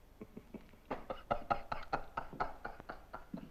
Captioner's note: laughing